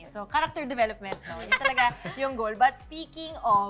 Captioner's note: laughs